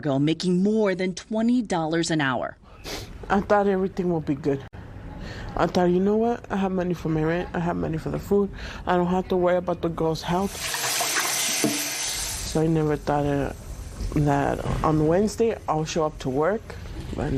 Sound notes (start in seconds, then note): 10.4 water flowing